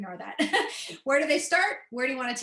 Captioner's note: laughter